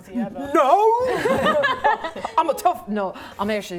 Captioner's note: laughing